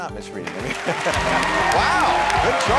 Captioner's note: audience cheering; laughing